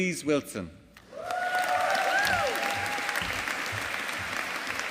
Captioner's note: audience applauding